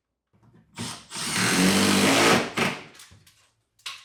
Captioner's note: nail gun popping; drill whirring